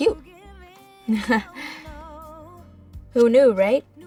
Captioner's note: chuckles